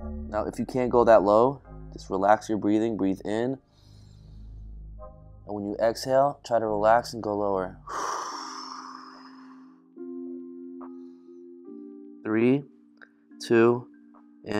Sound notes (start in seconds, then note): 7.9 exhaling loudly